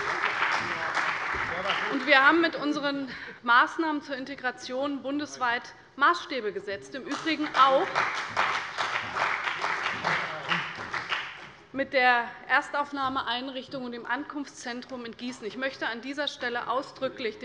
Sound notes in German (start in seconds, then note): 7.1 Beifall bei der CDU und dem BÜNDNIS 90/DIE GRÜNEN